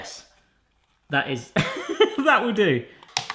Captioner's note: laughs